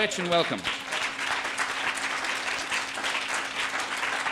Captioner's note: audience applauding